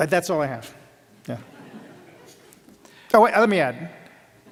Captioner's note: laughter